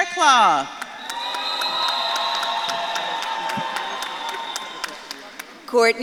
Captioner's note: audience claps and cheers